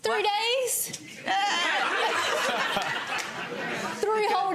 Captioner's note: audience laughing